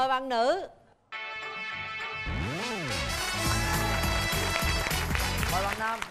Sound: applause

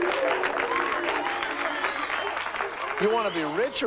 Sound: applause

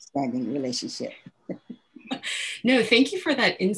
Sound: laughter

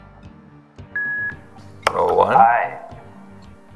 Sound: beep

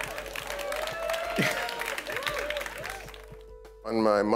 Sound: laughter; applause

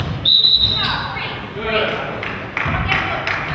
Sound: whistle blows

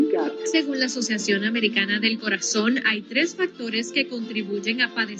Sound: reporter speaking Spanish

